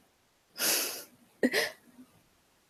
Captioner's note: laughs